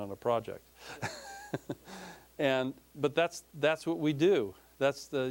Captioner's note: laughing